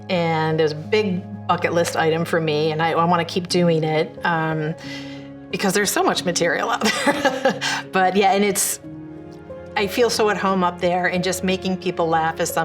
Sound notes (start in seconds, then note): 6.9 laughs